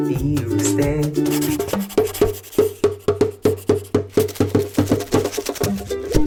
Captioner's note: pencil writing; drum beat plays